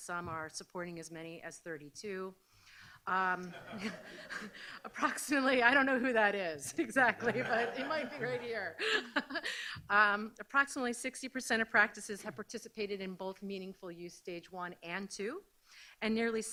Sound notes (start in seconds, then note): 3.4 audience laughs